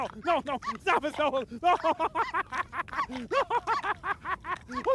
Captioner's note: laughing